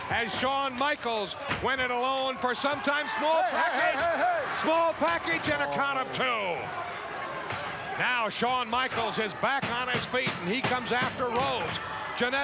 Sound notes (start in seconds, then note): 7.3 audience chattering